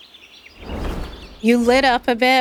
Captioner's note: screen whooshes; birds continue chirping